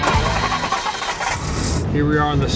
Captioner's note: engine revving